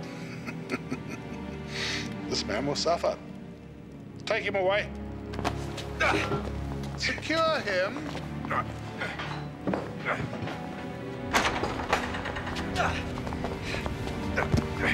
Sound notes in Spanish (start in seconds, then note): 0.0 Zadrim riendo; 6.1 William gruñendo; 8.7 William gruñendo